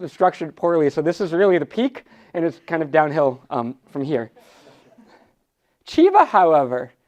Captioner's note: audience laughs